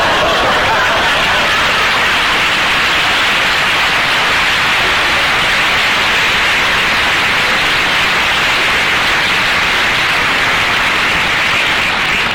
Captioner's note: audience applause